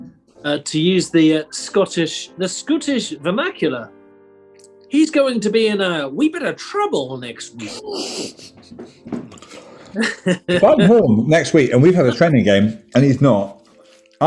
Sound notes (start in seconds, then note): 2.3 bad scottish accent; 7.5 sniggering